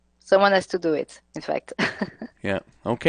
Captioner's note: laughs